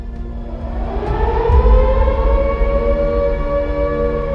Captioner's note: air raid siren